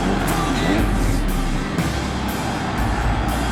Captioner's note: crowd cheering